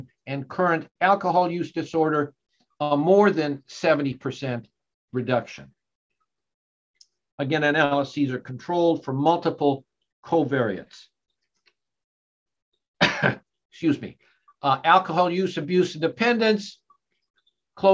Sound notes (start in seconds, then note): 13.0 coughing